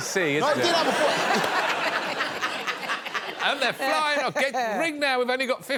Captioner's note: audience laughing